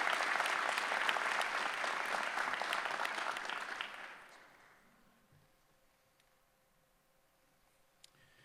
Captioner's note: applause